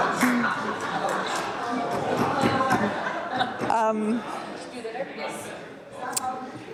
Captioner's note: laughter